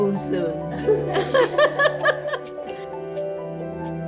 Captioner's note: laughing